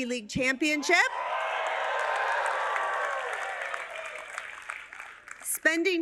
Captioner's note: cheers and applause